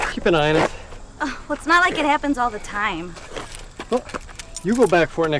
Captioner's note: scoffs